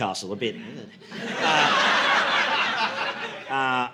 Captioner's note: audience laughing